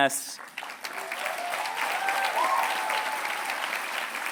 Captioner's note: applause